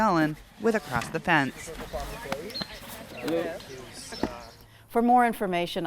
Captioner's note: people chatting